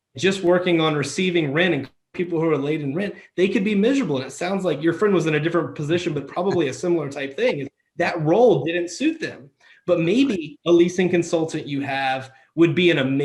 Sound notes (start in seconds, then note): 7.2 laughs